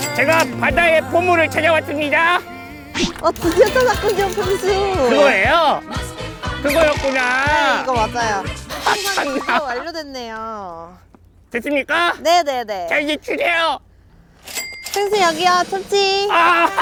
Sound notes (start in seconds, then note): 4.9 Sarcastic